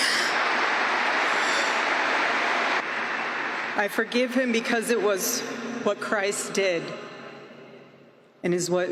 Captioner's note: applause